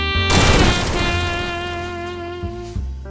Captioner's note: boom